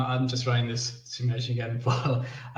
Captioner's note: laughs